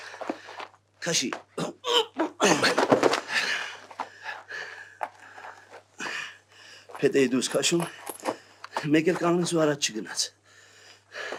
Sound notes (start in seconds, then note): 2.4 huff-puff